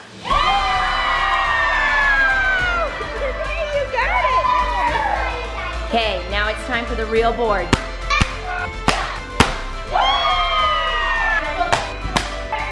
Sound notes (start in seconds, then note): 0.2 kids cheering; 9.9 cheering